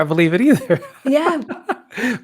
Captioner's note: laugh